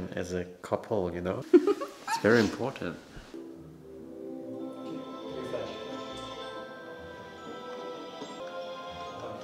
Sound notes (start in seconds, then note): 1.5 laughs; 4.2 video game music